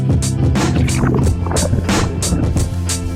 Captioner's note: water sounds